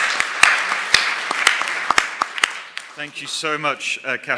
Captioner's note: applause